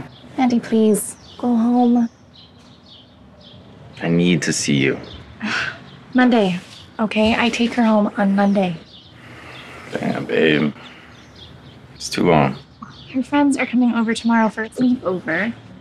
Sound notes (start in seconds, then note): 5.4 sighs